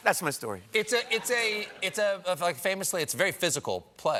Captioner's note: laughter